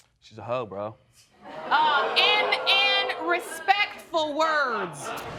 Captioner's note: audience laughing